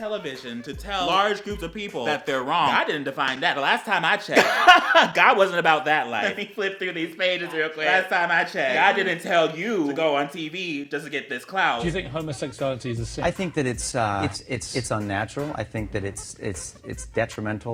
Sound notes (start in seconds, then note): 4.4 chOKE